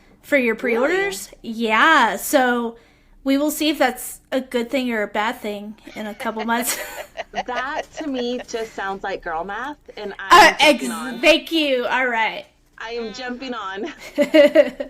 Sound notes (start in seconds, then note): 5.8 laughing